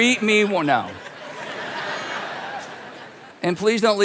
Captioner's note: congregation laughing